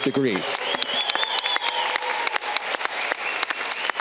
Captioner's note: audience clapping